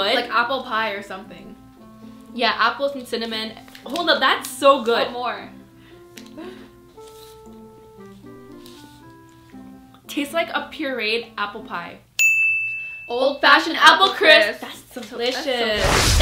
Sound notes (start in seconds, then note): 12.2 ding